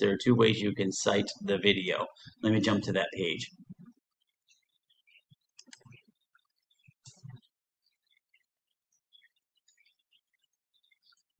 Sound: mouse clicks

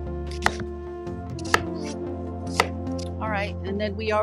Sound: knife chopping

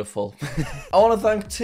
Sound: laughs

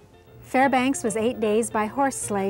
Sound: voiceover

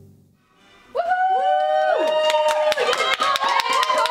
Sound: cheering and applause

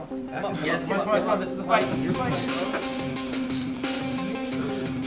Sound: chattering

